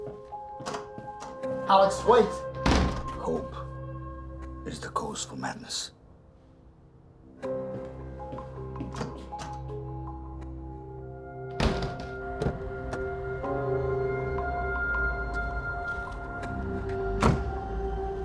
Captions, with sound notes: (tense music) - Aleks, wait. - Hope is the cause of madness. (tense music) (door clicking) (door clicking)